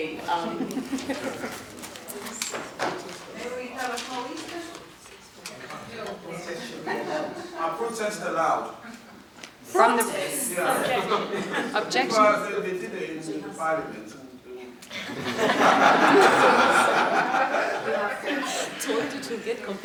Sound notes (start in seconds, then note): 15.0 laughs